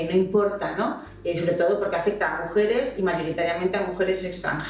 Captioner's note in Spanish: pitidos electrónicos